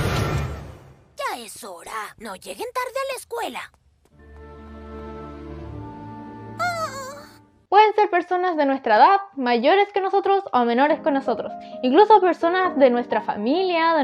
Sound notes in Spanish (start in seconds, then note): 6.6 Llanto